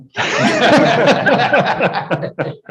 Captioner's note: laughter